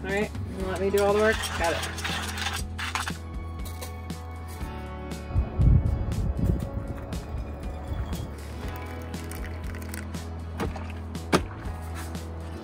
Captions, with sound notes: All right, you're gonna let me do all the work? Got it. (liquid sloshing)